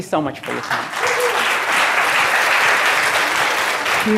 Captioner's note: crowd clapping